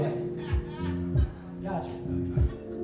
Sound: crowd laughs

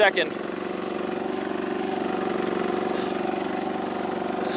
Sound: machine rumbles

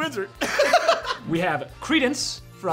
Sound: laughter

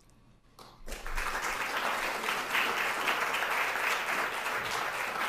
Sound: audience applauding

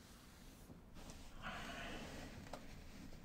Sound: sighs

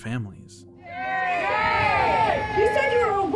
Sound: crowd shouting

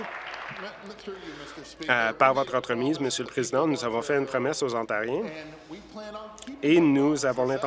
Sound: applause

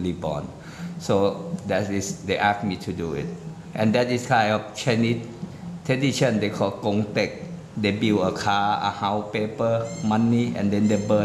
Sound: foreign

